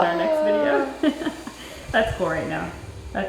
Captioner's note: laughing